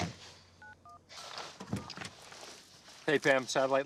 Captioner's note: door open close